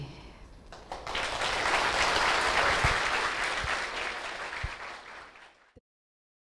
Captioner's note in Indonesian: tepuk tangan hadirin